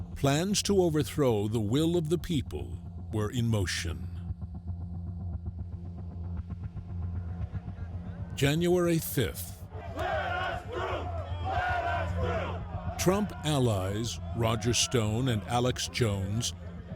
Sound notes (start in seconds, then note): 9.7 crowd chanting